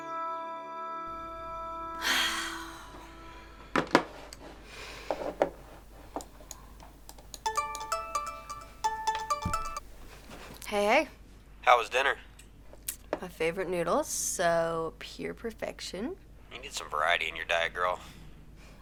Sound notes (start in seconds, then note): 2.0 sighs; 7.4 phone ringing